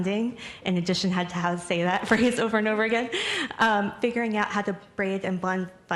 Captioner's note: laughs